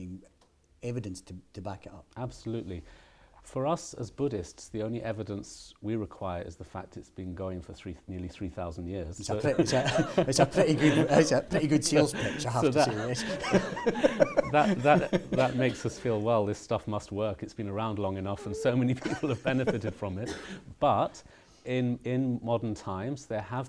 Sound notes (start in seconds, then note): 12.8 laughter